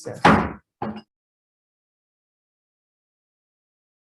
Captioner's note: gavel bangs